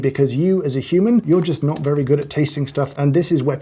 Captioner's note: ominous typing